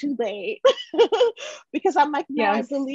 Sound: chuckles

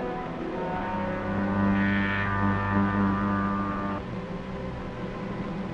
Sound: devisualizer humming

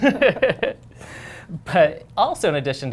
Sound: laughter

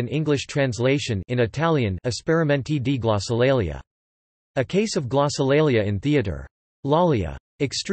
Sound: in Italian

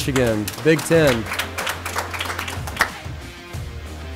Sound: applause

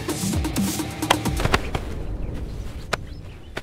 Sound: thud on ground

